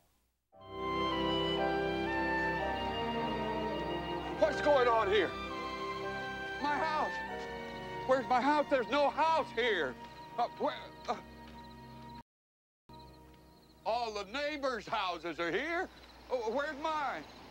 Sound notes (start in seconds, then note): 7.3 insects chirping